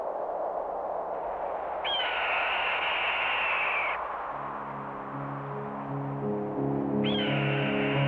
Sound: bird of prey screeching

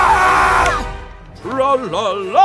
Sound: snap

